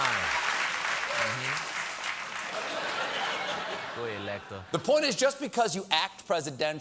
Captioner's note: laughter